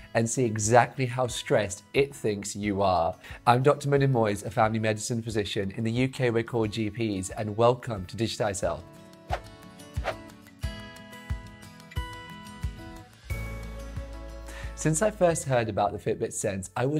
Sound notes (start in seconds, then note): 9.3 gentle music; 10.0 air whooshes